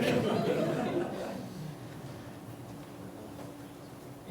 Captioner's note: light laughter